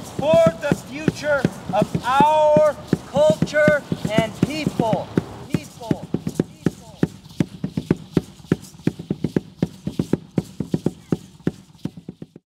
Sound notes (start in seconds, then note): 5.2 voice echoing; 7.4 drums beating